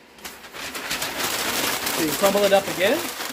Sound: paper crinkling

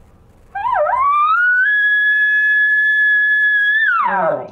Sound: elk call sound

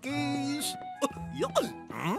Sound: Goofy laughs

